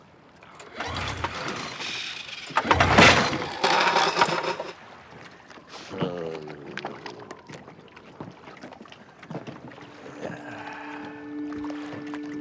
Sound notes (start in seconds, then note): 5.9 grumbling